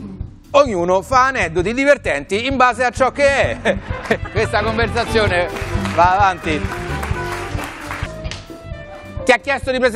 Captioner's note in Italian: Applauso